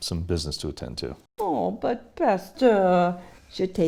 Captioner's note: speaks French